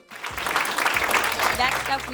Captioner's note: audience applauding